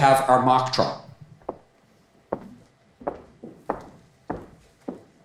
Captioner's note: footsteps clomping